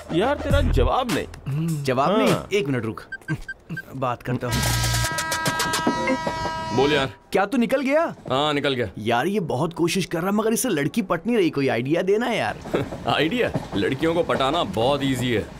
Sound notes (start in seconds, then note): 3.1 dialling; 4.7 train horn